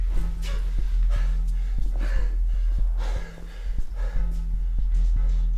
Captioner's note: Chris pants heavily